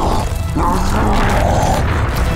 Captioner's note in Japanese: うめき声